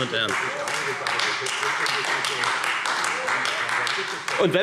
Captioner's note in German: Beifall Freie Demokraten